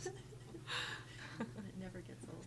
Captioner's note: group laughing